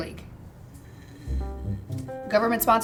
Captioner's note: uneasy groaning